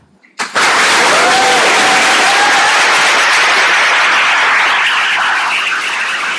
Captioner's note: audience applauding and cheering